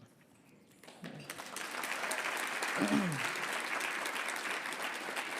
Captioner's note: audience applauding